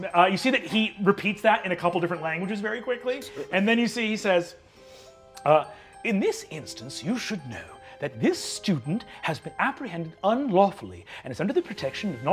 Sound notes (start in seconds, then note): none